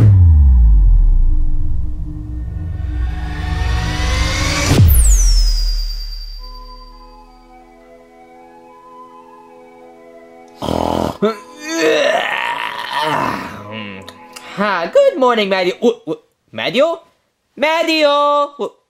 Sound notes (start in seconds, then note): 0.2 gentle dramatic music; 6.3 soft music; 10.5 Luigi snoring; 10.6 Luigi groaning